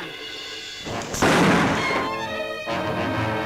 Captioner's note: gun bangs; tense music